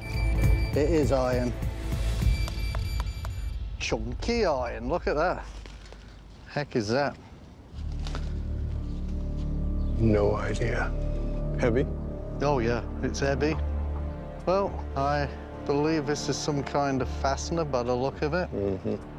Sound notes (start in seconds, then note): 1.8 beeping continues